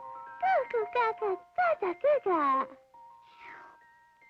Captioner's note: pebbles babbles